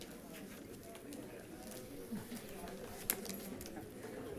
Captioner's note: people chattering